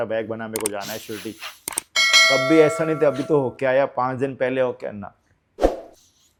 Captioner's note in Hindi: घंटी की आवाज़